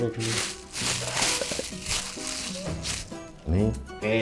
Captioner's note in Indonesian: Suara plastik kresek